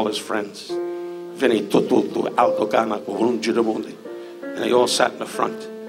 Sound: mimicking Italian

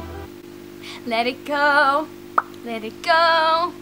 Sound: pop

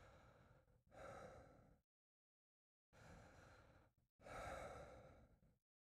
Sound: sound of laboured breathing

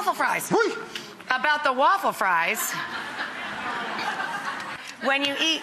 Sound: audience laughing

